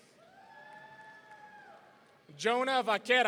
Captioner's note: audience cheering